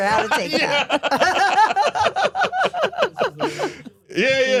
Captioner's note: Steph and Elyse laughing; laughs